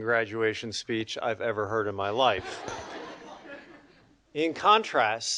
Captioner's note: audience laughing